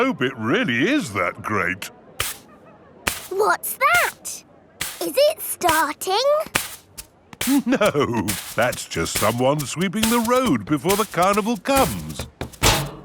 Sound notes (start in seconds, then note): 3.0 brushing